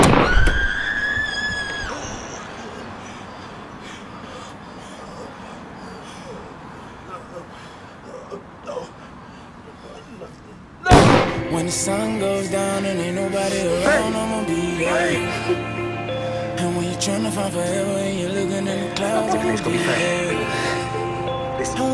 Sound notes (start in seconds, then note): 0.2 woman screaming; 5.2 man groaning; 10.9 gunshot blasting